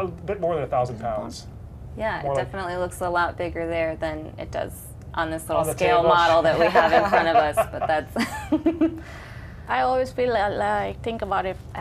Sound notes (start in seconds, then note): 8.9 laughter